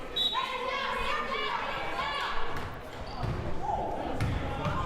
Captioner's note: whistle blaring; crowd murmuring